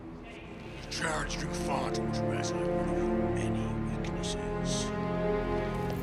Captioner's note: Ralnaht speaking in Scarran